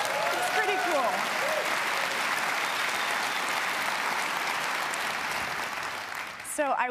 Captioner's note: applause